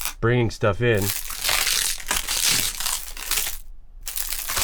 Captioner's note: ice crunching